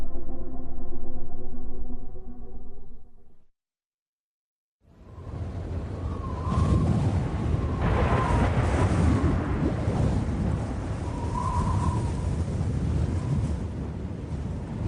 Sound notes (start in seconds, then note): 7.1 wind blows